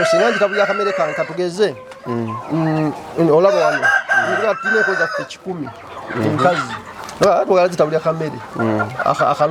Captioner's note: hens